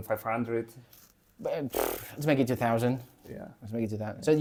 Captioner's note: blows out through lips